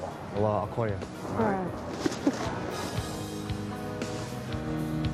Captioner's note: chuckles